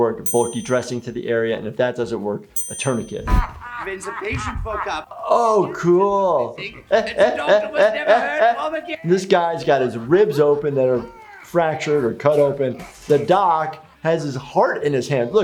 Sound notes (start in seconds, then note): 3.2 heavy laughing; 6.3 chuckles